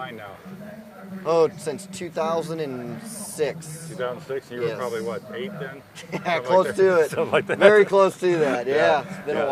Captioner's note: laughing